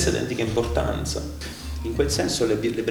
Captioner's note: holds breath in italian again